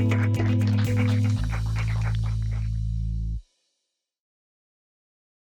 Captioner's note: cheers and applause